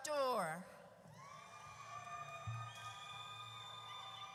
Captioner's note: audience cheers